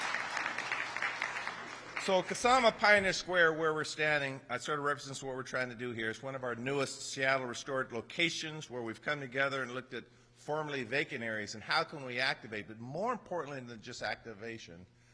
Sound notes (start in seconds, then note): 4.8 applause